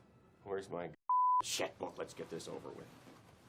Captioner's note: beep